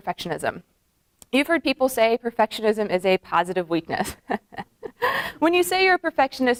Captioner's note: laughs